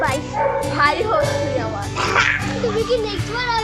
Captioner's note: chuckles